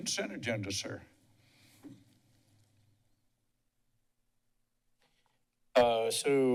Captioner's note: silence